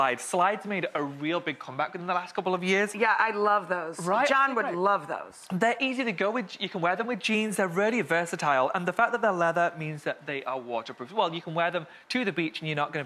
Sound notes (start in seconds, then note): none